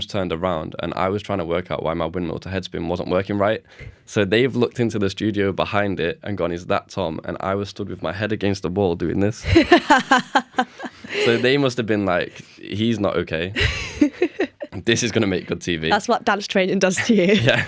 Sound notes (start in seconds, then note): 9.4 laughter; 13.5 laughter